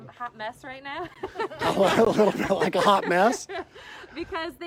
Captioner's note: laughter